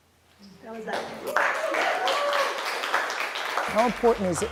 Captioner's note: crowd cheering